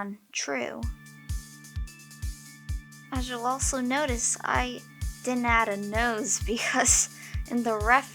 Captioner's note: laughs